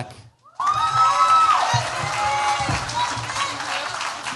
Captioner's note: cheers, applause